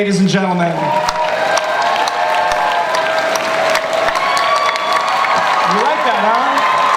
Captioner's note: applause